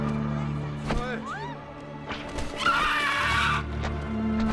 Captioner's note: dragon continues screeching